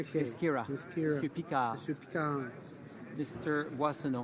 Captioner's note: speaking in french